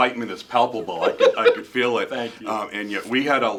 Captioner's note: laughing